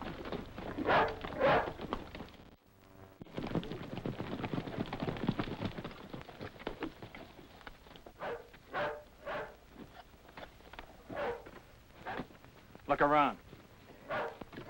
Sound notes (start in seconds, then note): 0.0 galloping; 1.2 dog barking